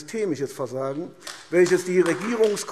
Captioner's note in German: Beifall AfD